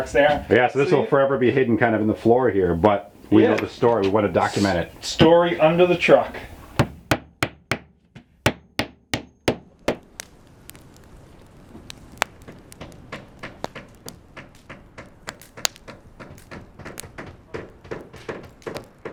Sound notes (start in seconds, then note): 6.7 hammers; 12.0 firewood crackling; 15.8 hammering continues